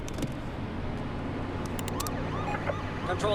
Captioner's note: siren